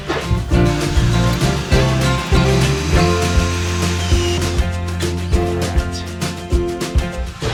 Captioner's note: moar drilling